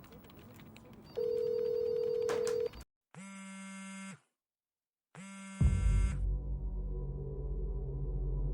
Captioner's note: phone ringing